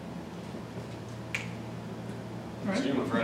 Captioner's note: snap